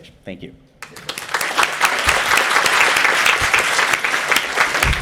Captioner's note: applause